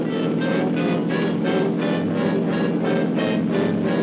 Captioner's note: motor roaring